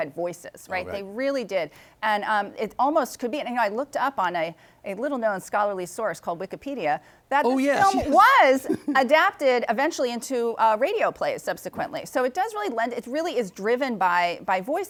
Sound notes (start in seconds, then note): 7.5 chuckles